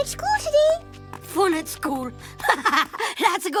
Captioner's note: laughs